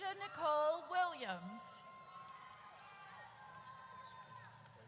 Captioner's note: audience cheers